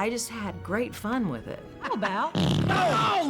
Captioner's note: farting